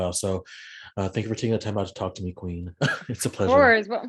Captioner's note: laughs